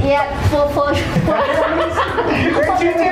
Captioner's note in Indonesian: Ketawa